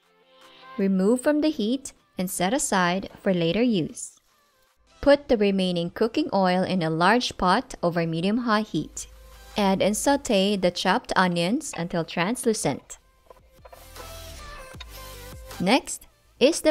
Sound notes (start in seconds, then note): 13.5 wooden ladle thudding